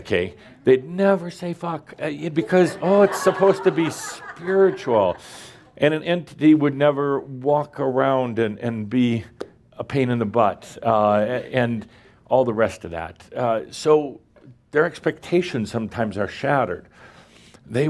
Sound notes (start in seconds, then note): 2.4 laughter